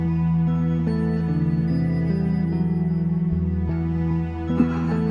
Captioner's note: laughter